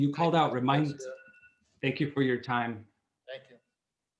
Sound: timer

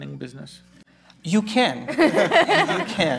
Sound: laughter

